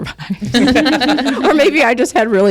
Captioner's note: group laughs